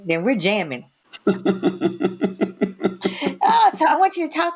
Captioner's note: all laughing